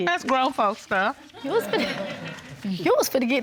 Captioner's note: audience laughing